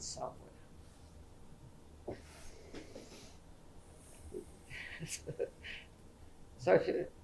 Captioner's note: laughs